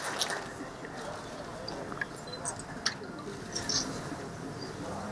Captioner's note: cameras shuttering